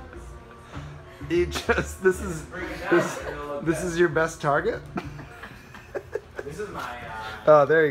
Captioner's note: laughs